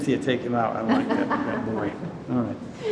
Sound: Cynthia laughs

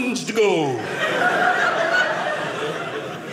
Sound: audience laughing

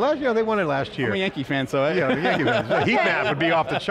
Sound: laughing

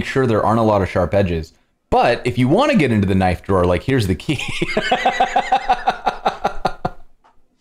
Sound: laughter

